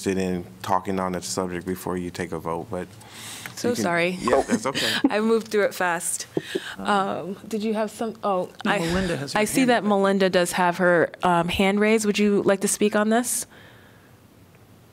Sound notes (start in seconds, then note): 4.2 laughter